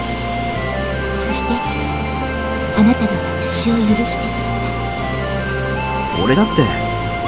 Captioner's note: rain